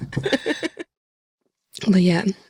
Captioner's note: laughter